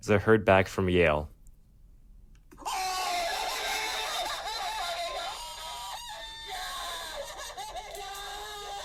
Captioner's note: multiple voices screaming yelling